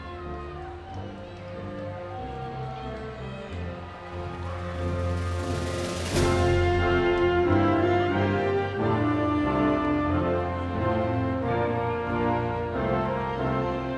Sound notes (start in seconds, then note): 3.9 audience continues cheering